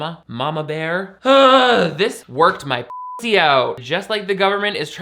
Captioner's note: beep